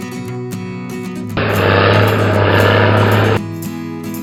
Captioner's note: bulldozer Engine Sound